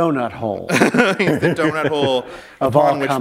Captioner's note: laughter